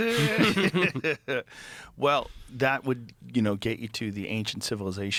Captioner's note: laughing